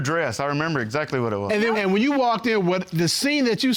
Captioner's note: none